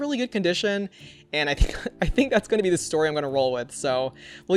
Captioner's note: chuckles